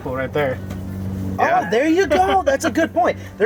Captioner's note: laughing